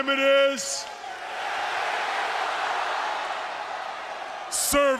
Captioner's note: audience cheering